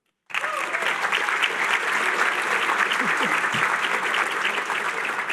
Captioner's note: applause